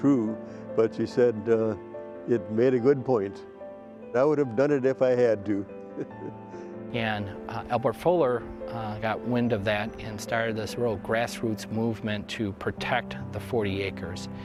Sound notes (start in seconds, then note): 5.8 chuckling